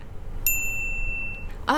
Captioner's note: small bell